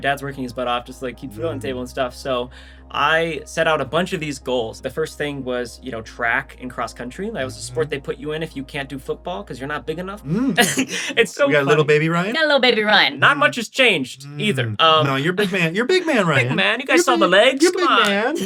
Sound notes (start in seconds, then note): 10.3 laughs; 12.6 pitched up